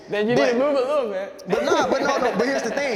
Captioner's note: panelists laughing